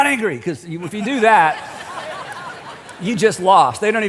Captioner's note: laughter